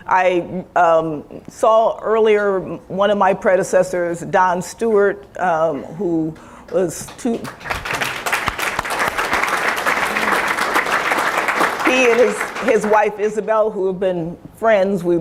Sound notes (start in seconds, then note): 7.0 applause